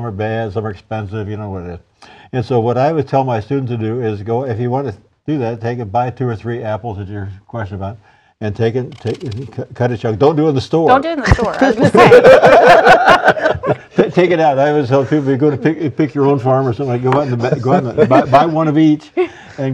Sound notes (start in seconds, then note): 15.0 laughter